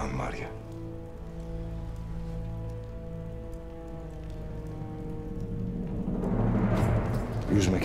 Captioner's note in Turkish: Ateş çıtırtı sesi